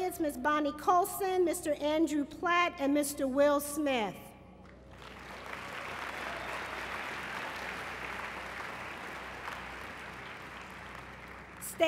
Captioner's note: applause